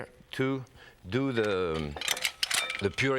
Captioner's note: food mill rattling